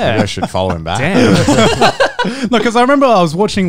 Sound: both chuckling

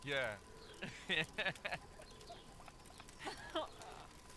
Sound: chuckling; chuckling

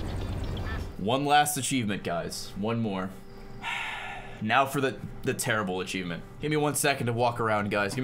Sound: sighs

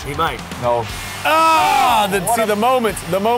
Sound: screams

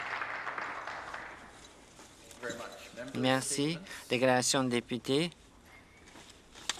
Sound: some applause

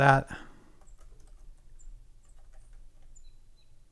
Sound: typing

